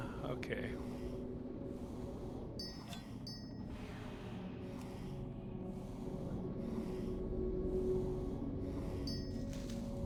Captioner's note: wind blowing